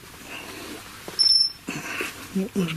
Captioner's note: REM-POD beeping